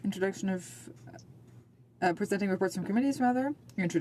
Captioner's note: speaking French